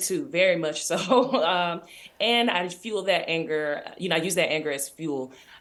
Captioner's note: chuckles